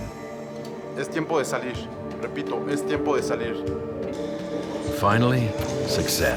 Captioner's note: man speaking in foreign language